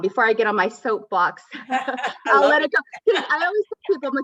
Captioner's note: laughter